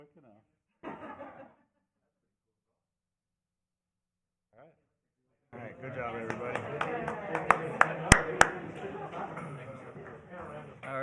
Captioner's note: laughter